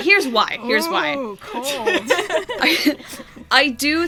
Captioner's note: laughs